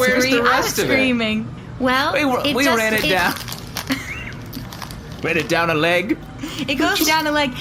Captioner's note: laughing